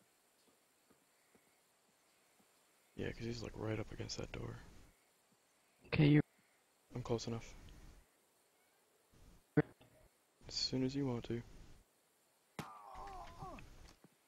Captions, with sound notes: Yeah, 'cause he's like right up against that door. K, you're *cuts out* -I'm close enough. As soon as you want to.